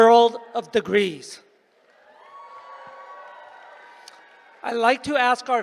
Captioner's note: applause